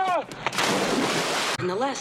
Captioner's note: splash